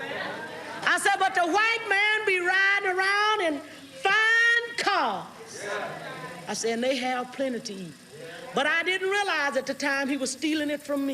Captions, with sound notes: I said, but the white man be riding around in fine cars. (audience exclaims) I said, and they have plenty to eat, but I didn't realize at the time he was stealing it from me.